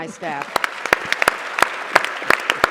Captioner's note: applause